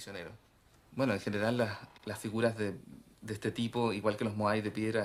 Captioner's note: Spanish spoken audio